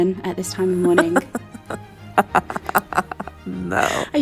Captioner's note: laughing